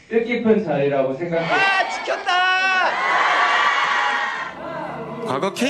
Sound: ARMYs cheer

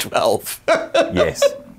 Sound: laughs

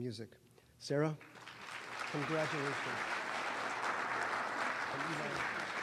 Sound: applause

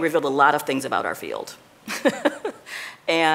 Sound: chuckling

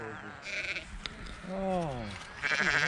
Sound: sheep bleating

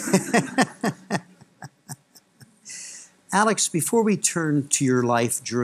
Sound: laughter

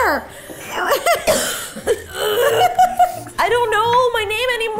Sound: Justine coughing; giggling and laughing

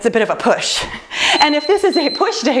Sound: timer beeps

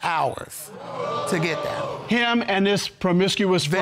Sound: audience exclaiming

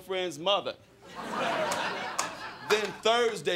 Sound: crowd laughing

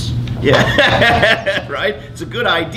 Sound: laughs

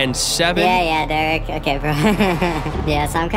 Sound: mock chuckles

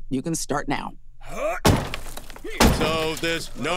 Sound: grunting, smashing, pounding

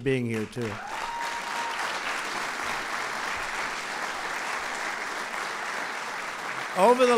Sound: applause

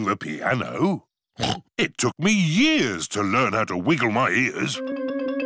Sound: snorts

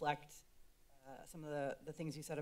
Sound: silence

